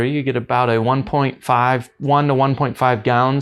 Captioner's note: none